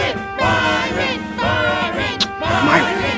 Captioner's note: kisses